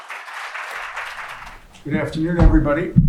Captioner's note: applause